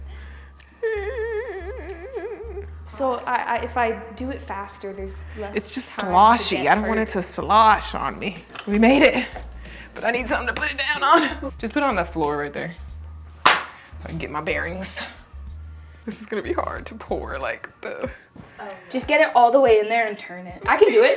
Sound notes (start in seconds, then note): 0.8 chuckles; 13.4 loud thump